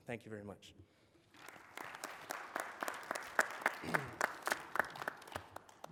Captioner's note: applause